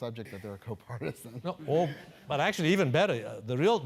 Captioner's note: laugh